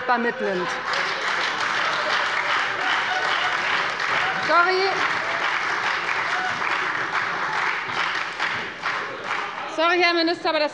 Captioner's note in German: Heiterkeit und Beifall bei der FDP und bei der SPD - Zurufe